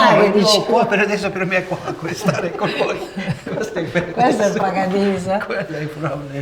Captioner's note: laughter; laughter